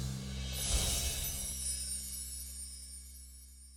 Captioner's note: chiming